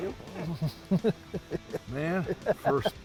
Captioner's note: laughing